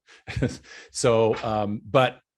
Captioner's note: chuckling